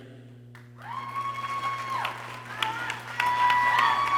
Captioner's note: people cheering